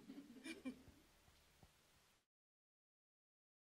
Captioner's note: chuckling